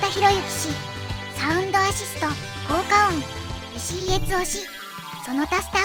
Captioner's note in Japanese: 効果音